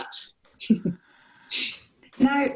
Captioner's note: laughter